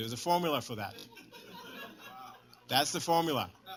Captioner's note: laughter